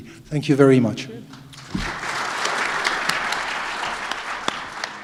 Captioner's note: applause